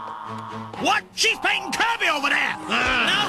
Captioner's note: growls